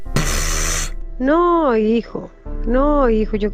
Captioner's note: pfft